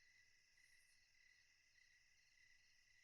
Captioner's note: crickets chirping